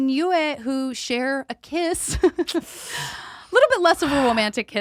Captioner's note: chuckles